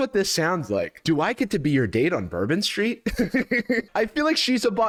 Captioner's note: laughs